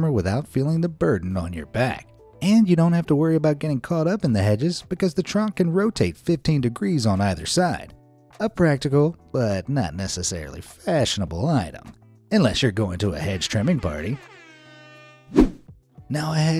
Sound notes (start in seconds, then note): 14.4 horn wailing side effect; 15.7 transition music